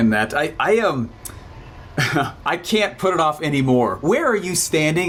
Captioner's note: chuckles